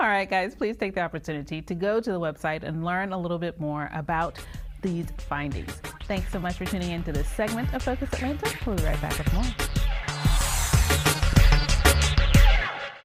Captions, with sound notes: All right, guys, please take the opportunity to go to the website and learn a little bit more about these findings. Thanks so much for tuning into this segment of "Focus Atlanta", we'll be right back with more. (graphic whooshing) (upbeat music)